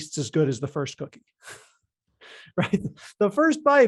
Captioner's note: laughs